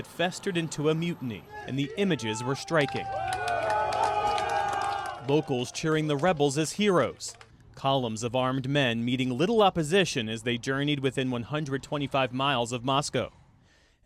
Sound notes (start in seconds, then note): 2.1 cheering and applause